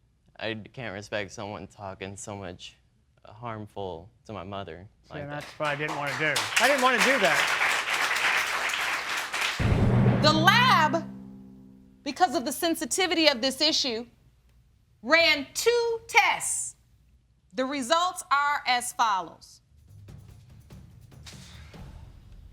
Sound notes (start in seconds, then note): 8.0 audience applauding; 20.9 exhales